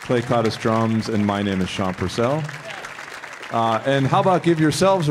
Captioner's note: audience applauding